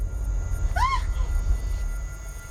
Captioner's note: screams